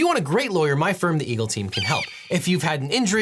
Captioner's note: eagle caws